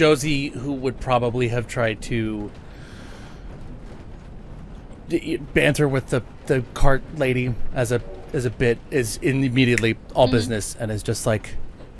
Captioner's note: snaps